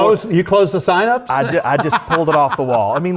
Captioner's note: laughter